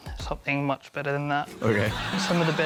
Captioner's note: laughter